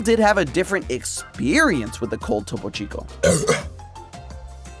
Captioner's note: coughs